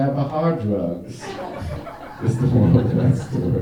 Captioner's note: audience laughing